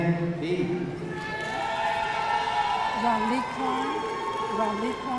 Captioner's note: audience cheering